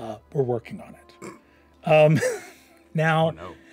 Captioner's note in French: renifle